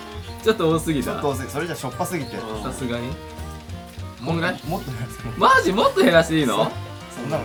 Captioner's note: laughs